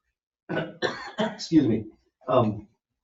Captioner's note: coughs